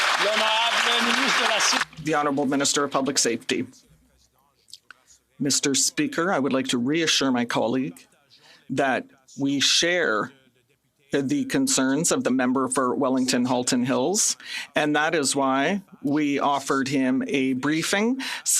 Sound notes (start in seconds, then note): 4.0 some Applause